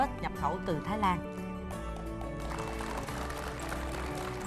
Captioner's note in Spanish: Aplauso